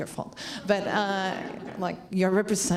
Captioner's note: laughs